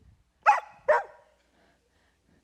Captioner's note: barking